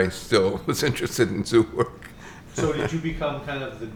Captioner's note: chuckles